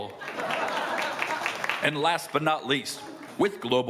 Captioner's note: crowd laughing